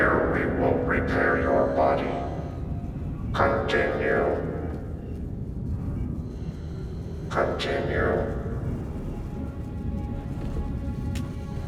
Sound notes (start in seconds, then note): none